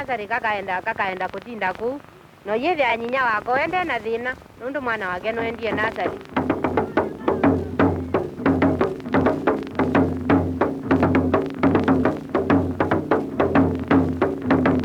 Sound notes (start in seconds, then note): 0.0 non-English speech; 2.8 non-English speech; 6.2 drumming; 14.6 drumming continues